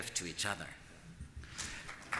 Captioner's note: applause